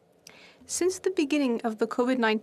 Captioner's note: speaking French